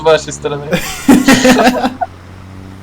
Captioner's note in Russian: Смех